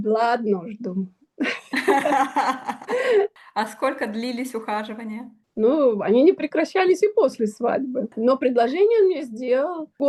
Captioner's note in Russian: смех